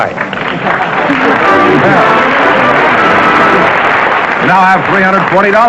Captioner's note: applause